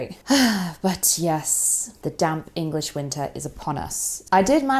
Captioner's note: sighs